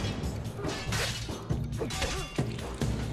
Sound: fighting sounds

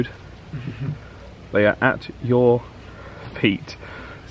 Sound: laughs

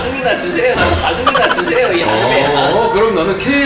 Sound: laughter

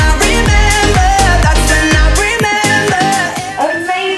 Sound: timer beeping

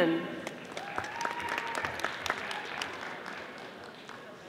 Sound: audience applauding

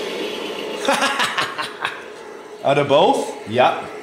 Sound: laughs

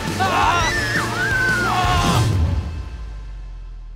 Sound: riders screaming

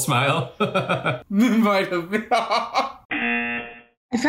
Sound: laughs; buzzer rings

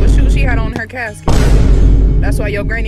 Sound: thud booming

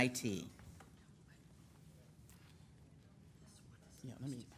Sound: conversing quietly

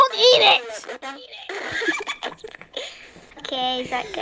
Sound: laughter

